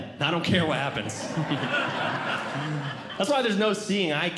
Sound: audience Laughing

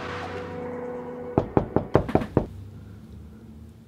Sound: knocking on door

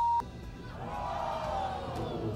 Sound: beeping; audience gasping

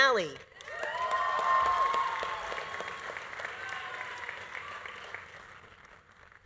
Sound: audience applauding; audience cheering

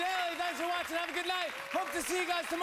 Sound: cheers and applause

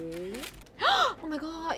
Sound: gasp

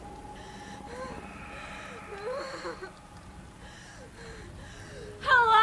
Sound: Stephanie whimpering

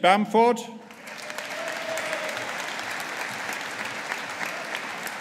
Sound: audience applauding

